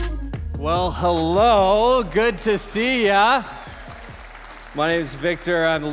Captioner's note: congregation applauding